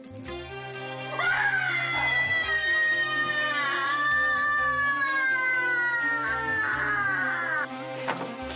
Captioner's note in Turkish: Bağırma sesi